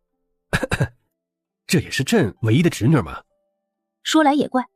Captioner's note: cough